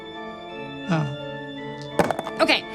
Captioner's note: dice thud